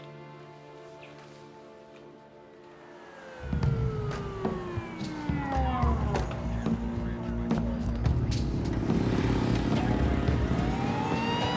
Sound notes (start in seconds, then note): 2.6 sirens wailing; 3.4 tense foreboding music